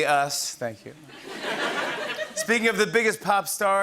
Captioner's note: laughter